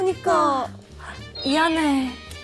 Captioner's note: gasp